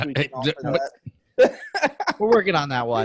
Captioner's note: laughs